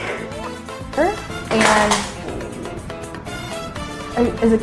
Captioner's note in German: Absturz